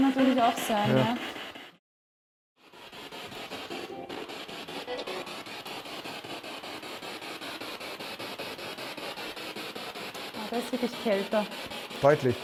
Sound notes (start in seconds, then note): 3.4 noise of the spiritbox in the background